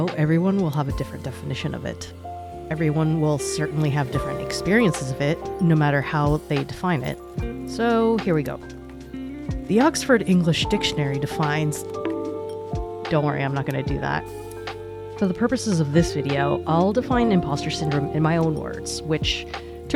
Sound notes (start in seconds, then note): 11.7 bonk